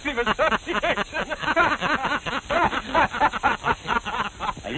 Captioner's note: laughing